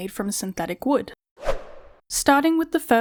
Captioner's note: whoosh Sound